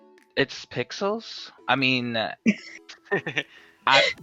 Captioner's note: chuckle